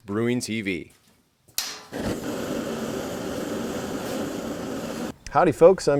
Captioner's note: brewing Burner Clicks and Lights